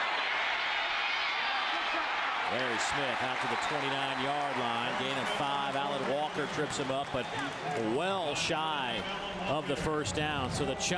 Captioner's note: applause